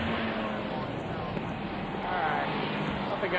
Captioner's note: vehicle whirring